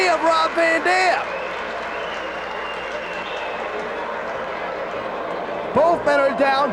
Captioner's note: spectators cheering and applauding